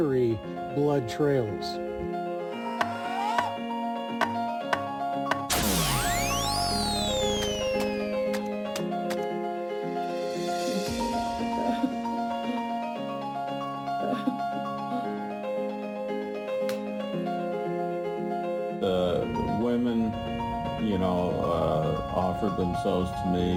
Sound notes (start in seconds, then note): 1.8 dramatic music; 5.5 electricity sizzling; 11.6 person cries